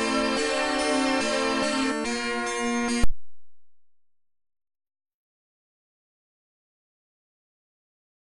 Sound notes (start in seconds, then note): 3.0 silence